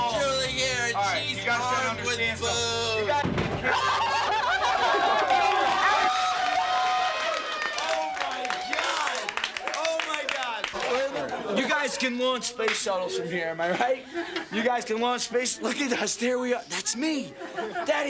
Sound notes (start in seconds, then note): 3.6 laughing; 6.4 people cheering